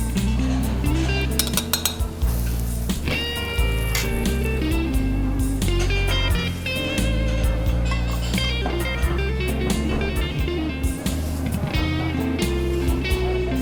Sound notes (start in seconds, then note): 6.3 diner sounds